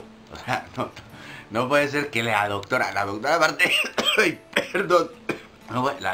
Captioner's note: coughing